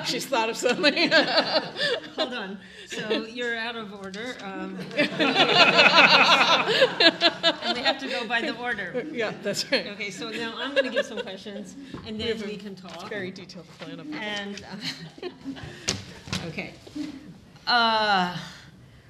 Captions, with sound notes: - She's thought of something. (laughing) - Hold on. So you're out of order. (all laughing) And we have to go by the order. - Yep, that's right. - Okay, so now I'm gonna give some questions and then we can talk-- - We have a very detailed plan of what... - Okay.